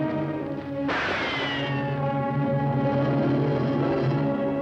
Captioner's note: gunshot